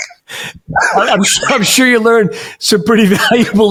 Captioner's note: laughs